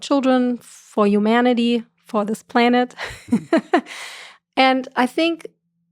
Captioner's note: laughs